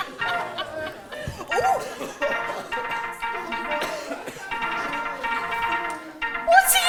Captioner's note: laughter; defriend beeps rush from Marge’s phone